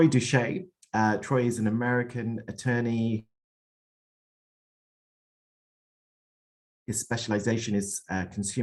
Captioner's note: audio lost